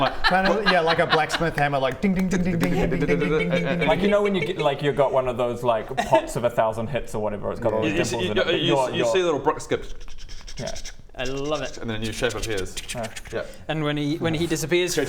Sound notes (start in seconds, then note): 9.7 ch-ch-ch-csh-ch-csh-csh